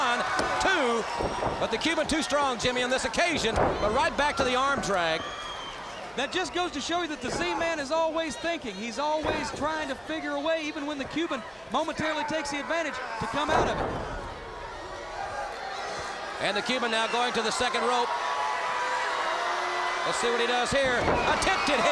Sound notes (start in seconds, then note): 1.2 crowd cheering; 14.1 crowd chatter; 18.9 crowd cheering